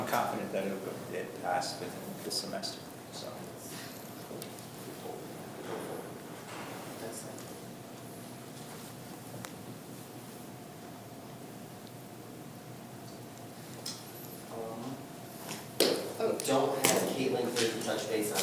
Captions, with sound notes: >> I'm confident that it will get passed this semester. >> Hopeful (speaks softly). I don't have Kaitlynn here to touch base on it,